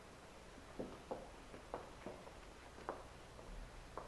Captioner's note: steps tapping